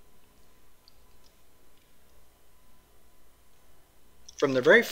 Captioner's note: pause